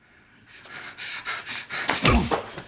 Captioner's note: officer huffing; gun thudding